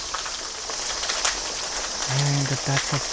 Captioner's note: streams trickle